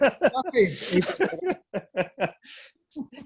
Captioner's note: both laugh